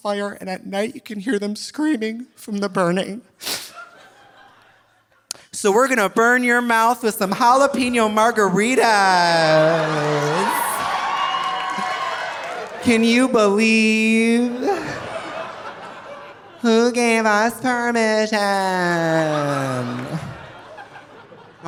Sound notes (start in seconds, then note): 3.4 Trixie sniffles; 3.7 audience laughing softly; 8.8 audience cheering; 8.9 audience laughing; 14.2 audience laughing; 18.9 audience laughing